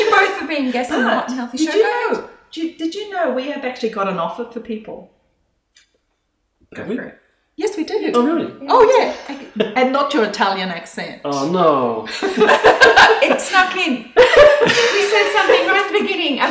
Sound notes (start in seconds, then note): 12.2 laughing